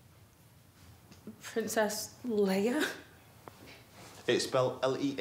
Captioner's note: laughs